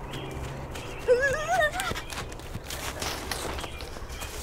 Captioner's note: grunts